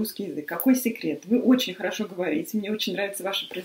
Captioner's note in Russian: по-русски